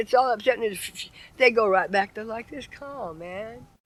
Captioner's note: exhales